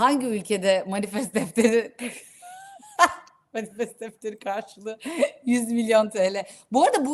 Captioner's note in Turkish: kahkaha